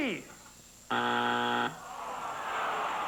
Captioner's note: buzzer